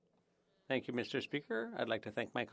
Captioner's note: speaking French